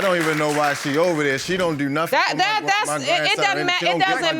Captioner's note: stammering